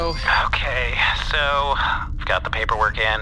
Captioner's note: holo opening sound